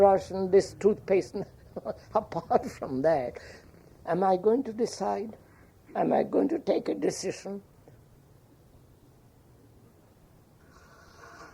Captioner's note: laughs